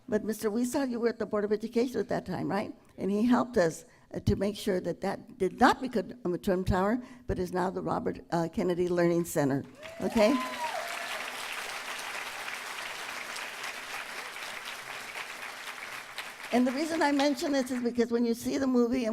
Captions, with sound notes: But Mr. Huizar, you were at the Board of Education at that time, right? And he helped us to make sure that that did not become a Trump Tower but is now the Robert Kennedy Learning Center. Okay? [ Applause ] And the reason I mention it is because when you see the movie --